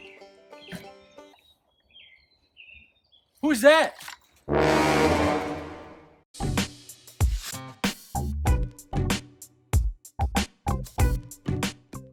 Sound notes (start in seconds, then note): 0.5 bird chirping; 4.6 suspenseful sound